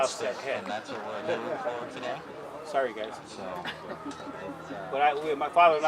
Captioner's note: laughter